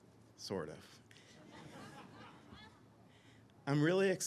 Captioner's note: all laugh